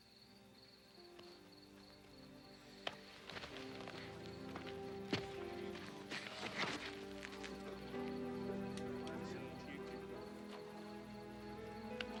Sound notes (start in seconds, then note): 0.3 emotional music; 3.6 people murmuring